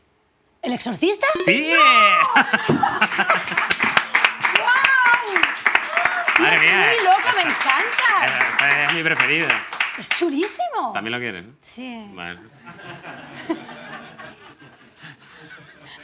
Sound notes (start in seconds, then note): 3.3 applause; 12.5 laughter